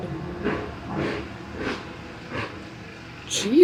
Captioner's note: very loud vehicles going